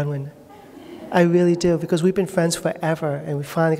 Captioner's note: laughter